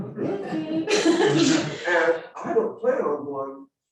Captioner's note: audience laughing